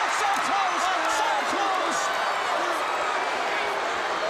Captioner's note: crowd cheering